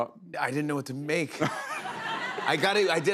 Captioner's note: laughter